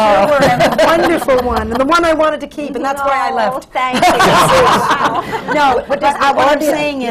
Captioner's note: laughter